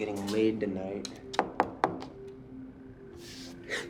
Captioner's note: knocks